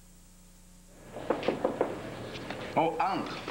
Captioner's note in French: On frappe à la porte